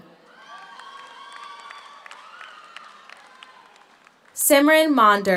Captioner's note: audience cheers; audience applauds